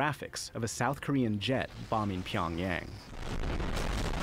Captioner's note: explosion